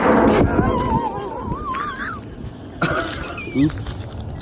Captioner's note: laughing